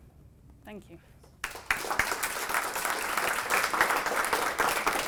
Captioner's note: applause